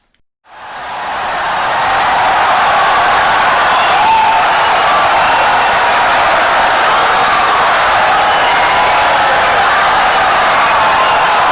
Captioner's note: wild applause and cheering for 17 seconds